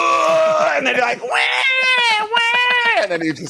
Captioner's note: groaning; mimicking crying